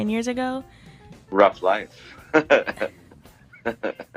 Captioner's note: insert chuckle